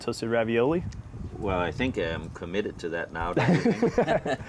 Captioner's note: laughing